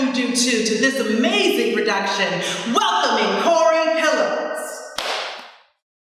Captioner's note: claps